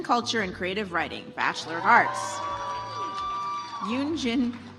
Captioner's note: audience applauds